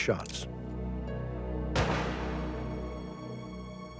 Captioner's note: gunshots